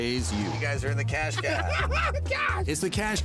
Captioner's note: laughing